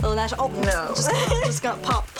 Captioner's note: laughs